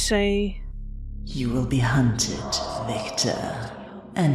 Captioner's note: echoing